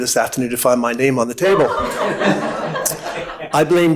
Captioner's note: audience laughing